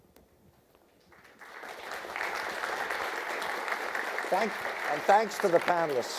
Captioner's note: audience applauding